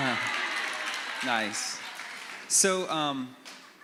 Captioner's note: applause